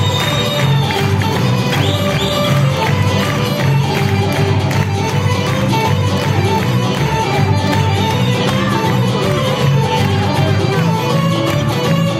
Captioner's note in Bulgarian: аплодисменти